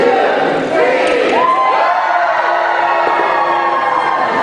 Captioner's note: cheering